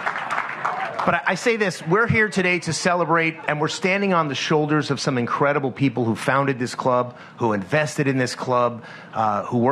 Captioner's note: applause